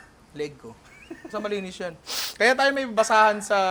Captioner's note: chuckles